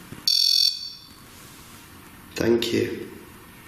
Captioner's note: REM-POD beeping